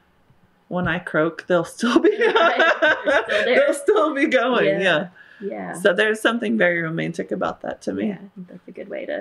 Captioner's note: laughter